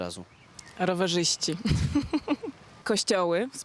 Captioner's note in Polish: śmiech